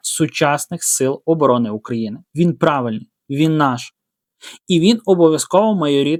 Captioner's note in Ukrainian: сопіння